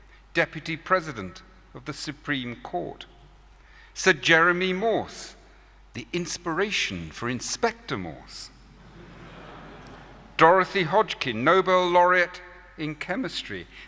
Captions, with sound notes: Deputy President of the Supreme Court; Sir Jeremy Morse, the inspiration for Inspector Morse; [LAUGHTER] Dorothy Hodgkin, Nobel Laureate in Chemistry;